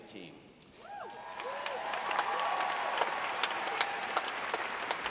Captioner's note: audience applauding